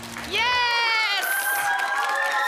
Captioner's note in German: Applaus